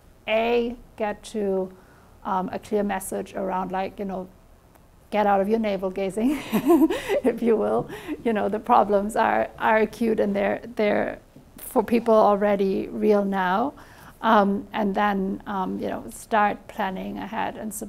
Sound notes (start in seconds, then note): 6.3 chuckles